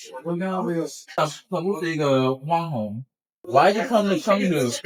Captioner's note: speaking Chinese